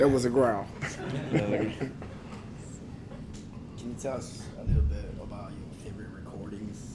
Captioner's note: laugh